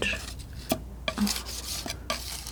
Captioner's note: scratching